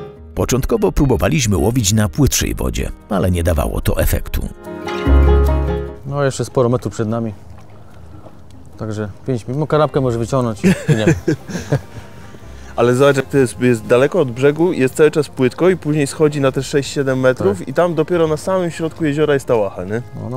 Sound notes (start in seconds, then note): 10.6 laughter